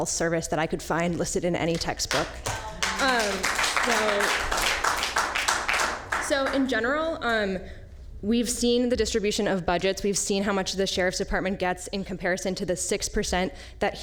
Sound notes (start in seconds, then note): 5.5 applause